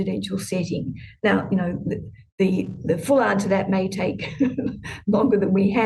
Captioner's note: chuckles